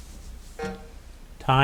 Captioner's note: timer buzzing